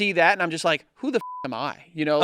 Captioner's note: beep